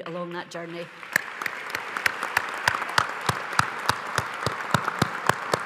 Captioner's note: audience applauds